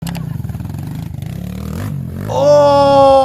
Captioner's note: engine revving